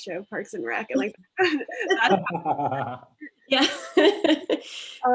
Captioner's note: laughs loudly